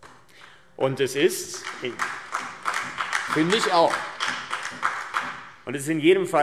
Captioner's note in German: Beifall AfD